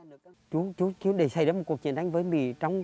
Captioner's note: speaking Vietnamese